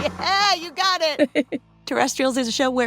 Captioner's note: laughs softly